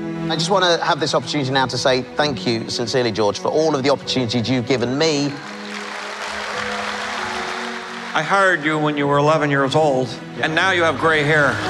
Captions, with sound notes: WARWICK DAVIS I just want to have this opportunity now to say thank you sincerely, George, for all the opportunities you've given me. [Applause] GEORGE LUCAS I hired you when you were 11 years old... ...and now you have gray hair.